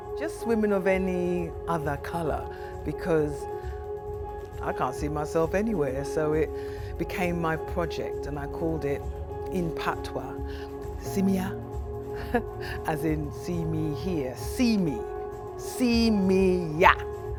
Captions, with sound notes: Just women of any other colour, because...I can't see myself anywhere. So it became my project and I called it, in Patois, Si Mi Yah. (CHUCKLES) As in "see me here". See me. Si mi yah!